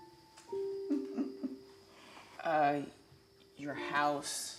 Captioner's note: Ms. Odell laughs